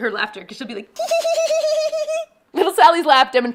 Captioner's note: laughing